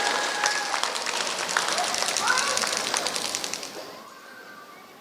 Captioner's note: applause